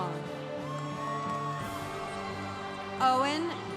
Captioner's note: congregation cheering